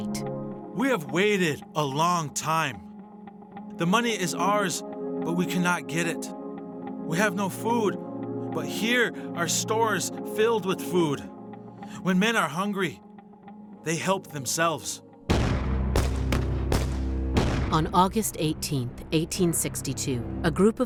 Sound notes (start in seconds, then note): 15.3 gunfire